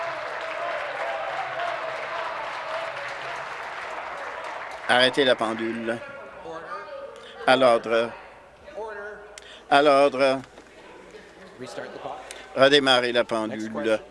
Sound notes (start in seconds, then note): 0.0 applause; 3.3 cheers